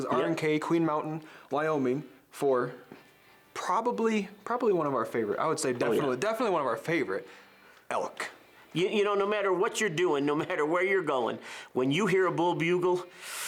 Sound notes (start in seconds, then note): none